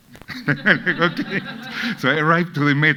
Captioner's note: laughs